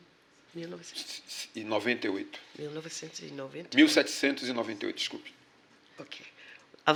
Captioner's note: speaking portuguese